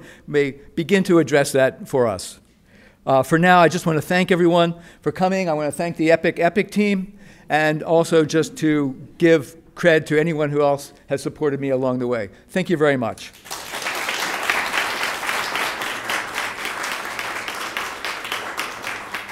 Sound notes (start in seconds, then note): 13.3 applause